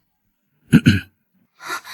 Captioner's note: cough, cough